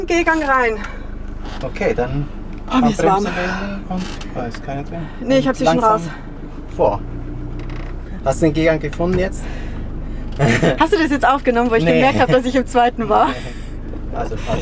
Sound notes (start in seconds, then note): 10.3 laughs; 14.0 laughs